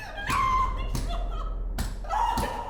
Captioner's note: sobs; pounds floor